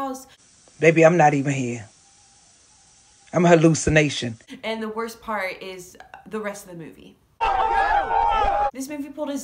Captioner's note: screaming